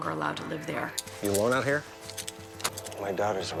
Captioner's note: handcuffs clicking